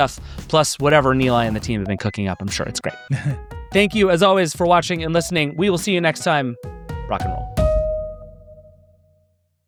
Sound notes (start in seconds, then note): 3.0 chuckles; 7.7 bright music